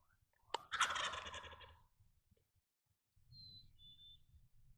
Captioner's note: turkey gobbles; hunter whispering